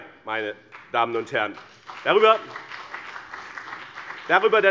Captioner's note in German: Beifall BÜNDNIS 90/DIE GRÜNEN und CDU